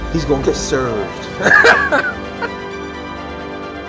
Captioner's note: laughs